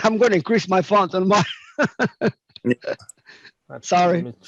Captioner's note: laughs